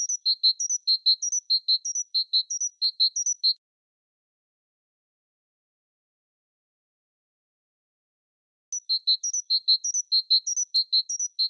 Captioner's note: birds chirping